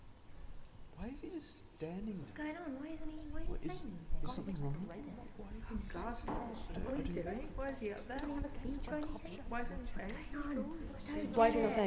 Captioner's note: murmuring